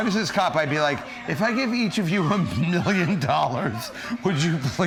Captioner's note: laughs